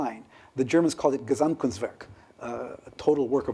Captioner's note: speaking german